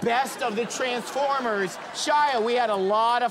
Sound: audience laughter

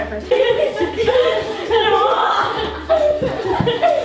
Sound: giggling

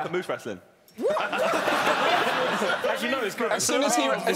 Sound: laughing

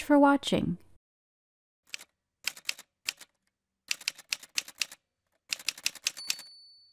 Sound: typewriter sounds

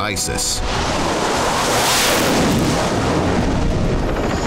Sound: plane whizzing

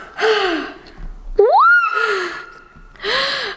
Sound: gasping

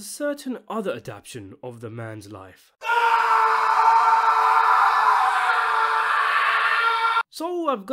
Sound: scream

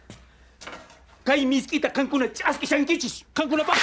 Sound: none

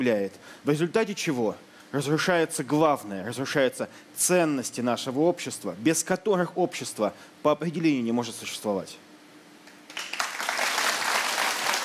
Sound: applause

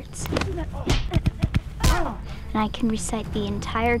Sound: smacks

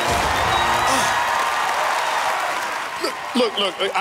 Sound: crowd cheering

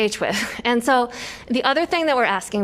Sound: laughter

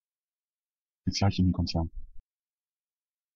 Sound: fast Pronunciation

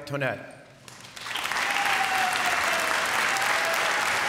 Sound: applause

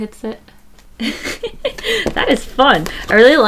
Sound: laughs

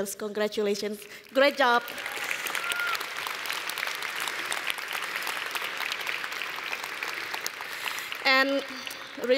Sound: applause

